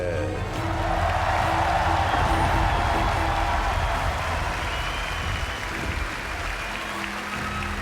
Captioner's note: audience cheers